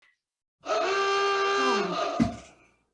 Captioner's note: awooga